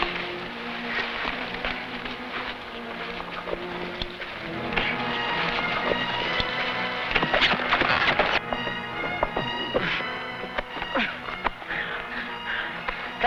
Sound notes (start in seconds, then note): 4.6 tense music; 7.9 horse hooves pattering; 10.9 sentry groaning